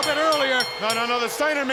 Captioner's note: bell rings